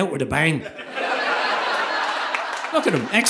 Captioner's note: audience laughing